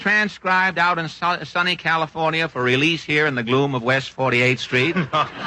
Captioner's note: laughter